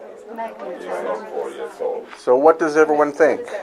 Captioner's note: group chattering